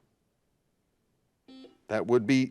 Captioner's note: buzzer buzzes